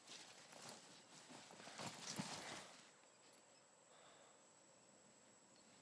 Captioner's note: cicadas chirping; bag rustling